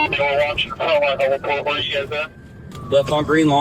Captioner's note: radio